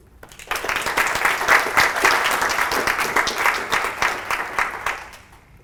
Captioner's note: applause